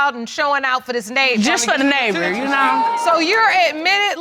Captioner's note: audience exclaiming